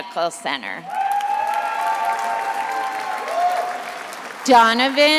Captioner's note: attendees applauding and cheering